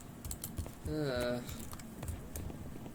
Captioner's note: groaning